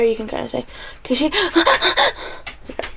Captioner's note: heavy breathing